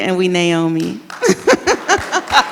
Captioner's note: laughs and audience applauds